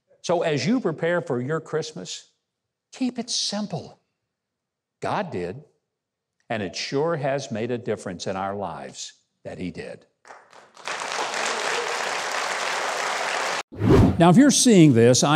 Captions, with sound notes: So, as you prepare for your Christmas, keep it simple. God did, and it sure has made a difference in our lives that He did. (audience applauds) Now, if you're seeing this,